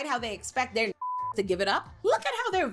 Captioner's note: beep